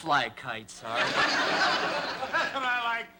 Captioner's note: laughter